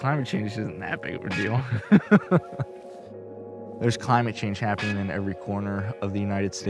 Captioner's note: laughter